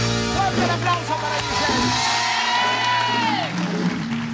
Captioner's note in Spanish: Ovación